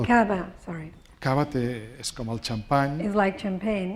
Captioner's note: speaking spanish